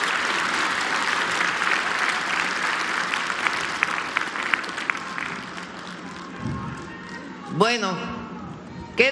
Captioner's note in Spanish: aplausos